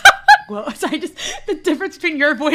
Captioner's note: laughter; laughing